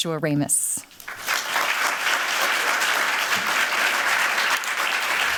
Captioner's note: applause